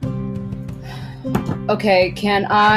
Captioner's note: exhales loudly